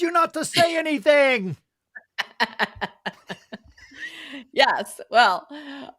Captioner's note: laughing